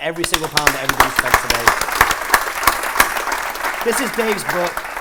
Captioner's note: applause